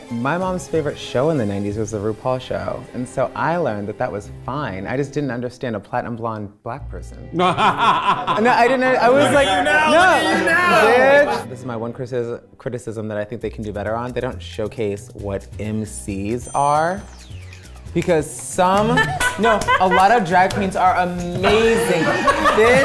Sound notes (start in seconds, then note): 7.4 laughing; 18.8 people laughing